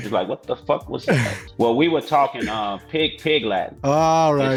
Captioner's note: dialect